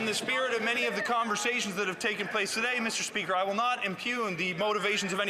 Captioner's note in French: voix de l'interprète